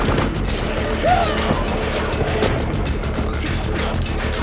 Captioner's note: machine guns firing; man screams; intense music